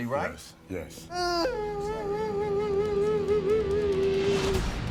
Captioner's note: crying